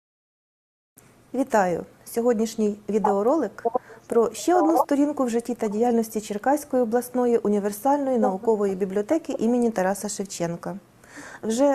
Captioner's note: foreign Language Spoken